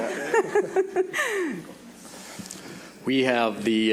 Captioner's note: laughing